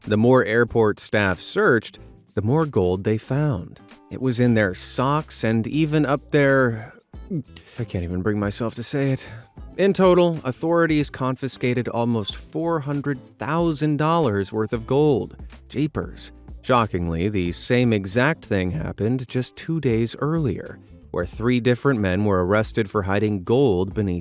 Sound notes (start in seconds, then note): 7.2 gags